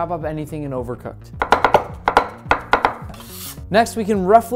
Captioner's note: knives hitting the cutting board